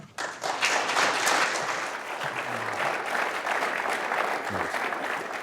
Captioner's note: applause